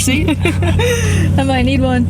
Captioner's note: laughs